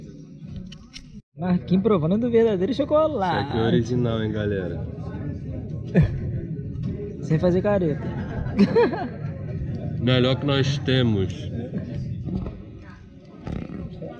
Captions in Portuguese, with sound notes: Markin provando do verdadeiro chocolate. -Esse aqui é o original, hein galera. Sem fazer careta. (risos) -Melhor que nós temos.